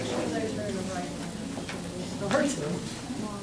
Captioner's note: crowd talking indistinctly